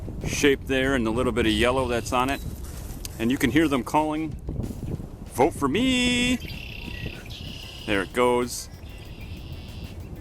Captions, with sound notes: shape there and the little bit of yellow that's on it. And you can hear them calling. "Vote for meee". [Red-winged Blackbird calls] There it goes.